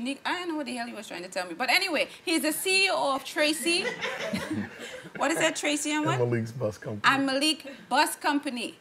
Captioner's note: laughing